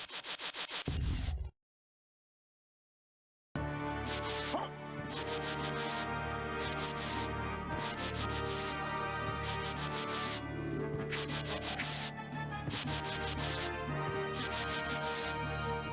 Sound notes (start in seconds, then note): 1.7 applause